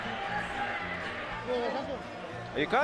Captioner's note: speaking Spanish